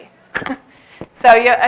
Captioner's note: chuckles